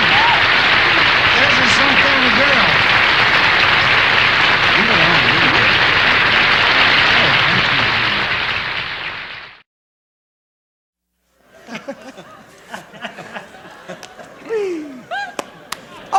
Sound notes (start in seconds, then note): 9.7 applause; 11.4 laughter